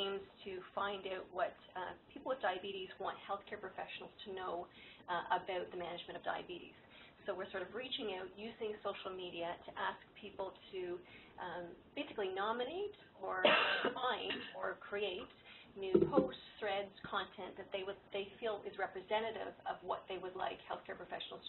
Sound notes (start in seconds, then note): 13.4 cough in the background